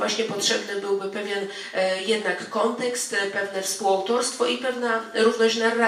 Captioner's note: speaking in foreign language